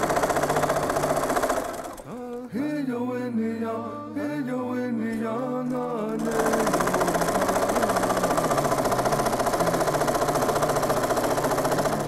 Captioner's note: sound of a sewing machine